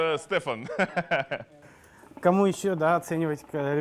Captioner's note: laughter